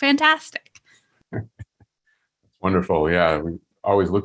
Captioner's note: chuckling